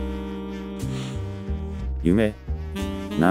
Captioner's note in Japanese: 息を吸う